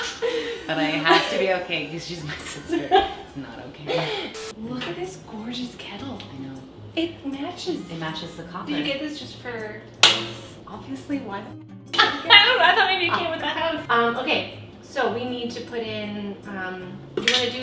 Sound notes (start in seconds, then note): 3.4 laughing; 10.3 metal snapping; 12.1 chuckles